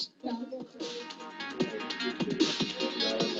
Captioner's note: healthcare workers talking; techno music